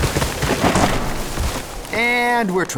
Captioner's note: creaking; crash